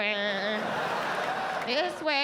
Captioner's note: audience laughs